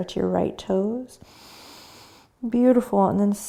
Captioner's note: breathing